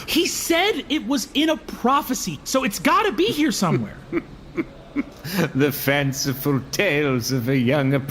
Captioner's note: laughs mockingly